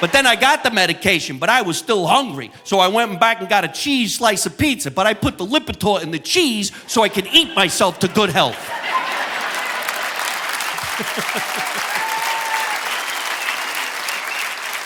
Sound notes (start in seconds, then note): 7.9 audience applauding; 9.1 audience laughing; 10.7 laughs